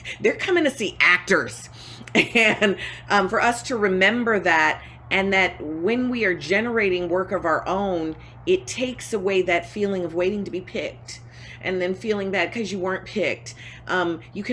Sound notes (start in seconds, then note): 1.9 laughing